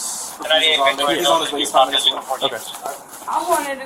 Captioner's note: radio chatter